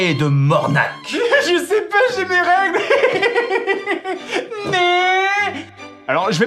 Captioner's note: imitating a feminine voice